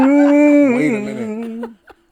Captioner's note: laughing